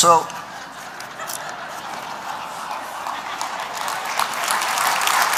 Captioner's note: laughter; applause